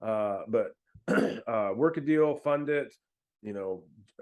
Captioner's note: clears throat